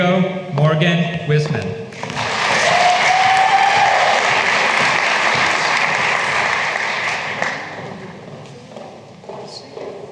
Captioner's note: applause